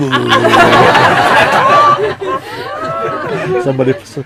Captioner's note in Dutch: Gelach